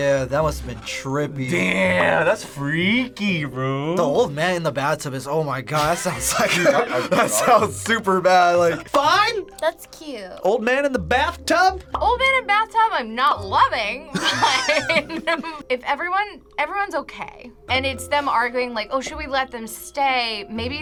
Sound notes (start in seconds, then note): 14.1 laughs